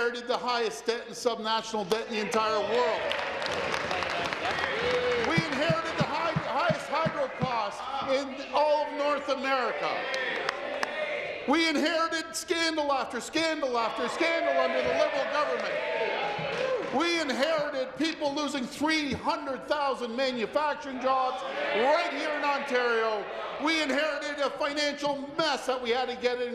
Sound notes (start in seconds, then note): 6.3 applause